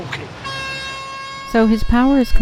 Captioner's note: horn Honking